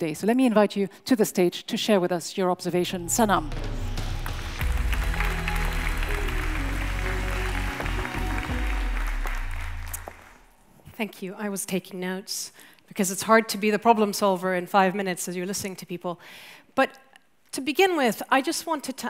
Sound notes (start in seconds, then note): 2.9 rousing music; 3.6 audience applauds